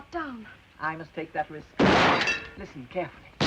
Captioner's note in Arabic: طلق ناري وزجاج يتحطم